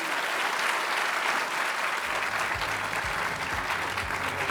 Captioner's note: applause